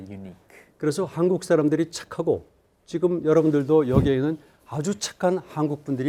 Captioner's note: speaking in Korean